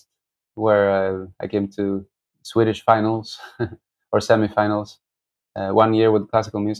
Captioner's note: laughter